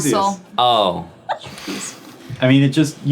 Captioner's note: giggling